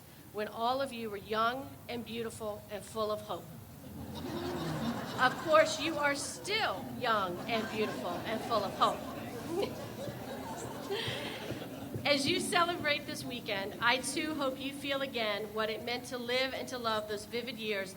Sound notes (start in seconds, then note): 3.9 group laughs; 10.6 all laugh